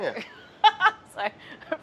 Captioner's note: laughs